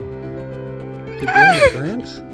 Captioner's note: can't hold laughter any longer